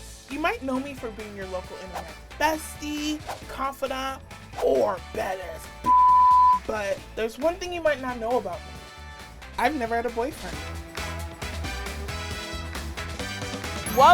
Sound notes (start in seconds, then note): 5.8 beep; 11.4 upbeat music